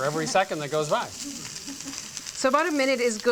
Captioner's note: chuckles